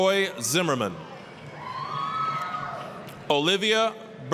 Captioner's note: applause, cheering